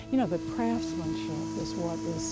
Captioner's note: whirring